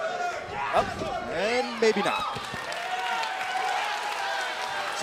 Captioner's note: crowd cheering